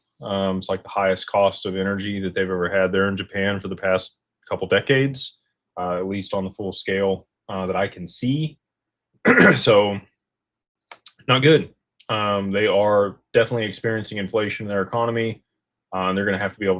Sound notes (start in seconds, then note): 9.2 clears throat